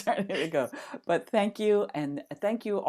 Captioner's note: laughing